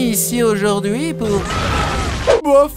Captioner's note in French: explosion et cris d'enfants